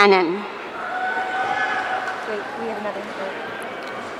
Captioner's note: audience cheering